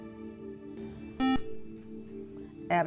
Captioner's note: buzzer